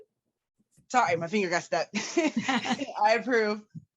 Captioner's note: laughs